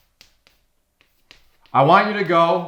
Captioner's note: chalk scraping on chalkboard